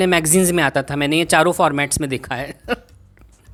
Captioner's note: chuckles